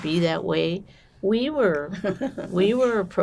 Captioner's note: laughing